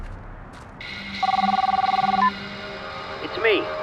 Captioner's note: cellphone ringing